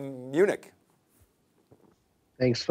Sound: swallowing heavly

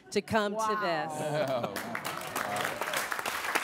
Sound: audience applauds

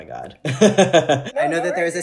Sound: laughing

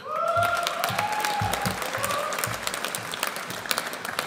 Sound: audience applauds

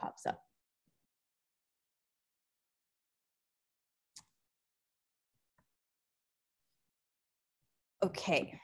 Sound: no sound

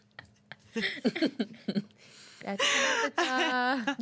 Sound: girls laughing

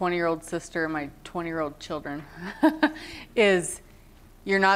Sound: laughter

